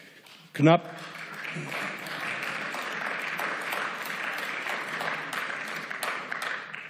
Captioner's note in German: Beifall